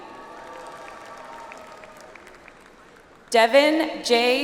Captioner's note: audience applauds